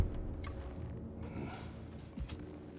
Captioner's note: grunt